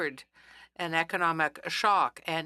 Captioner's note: speaking French